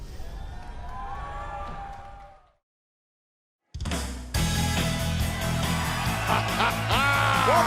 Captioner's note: cheers & applause